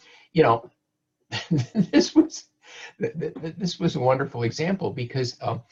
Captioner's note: chuckles